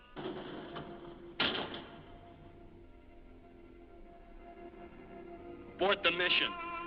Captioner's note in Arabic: الباب يفتح ويغلق